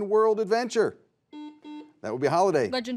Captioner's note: buzzer buzzes